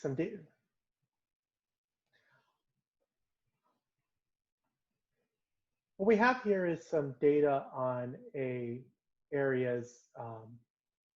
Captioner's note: pause